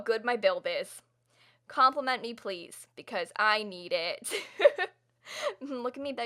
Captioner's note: laughter